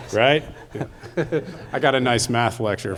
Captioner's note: audience laughing